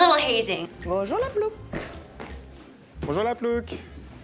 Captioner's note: foreign language